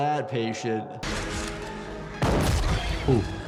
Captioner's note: shotgun firing; intense music